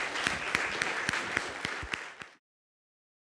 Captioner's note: audience applauds